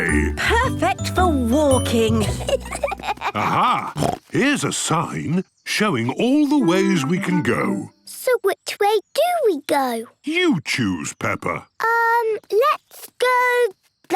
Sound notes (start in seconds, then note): 2.0 children giggling; 3.4 snorts